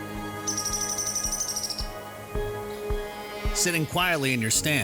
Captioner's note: bird chirping